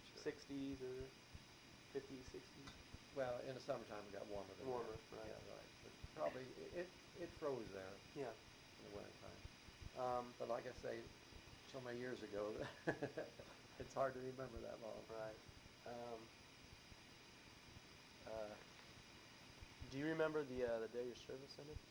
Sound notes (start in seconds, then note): 12.5 chuckles